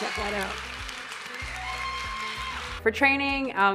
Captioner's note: audience applauding and cheering